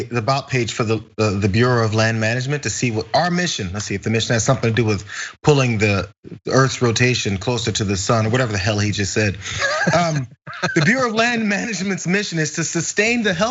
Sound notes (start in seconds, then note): 9.4 laugh